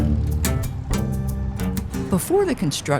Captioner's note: engine rumbling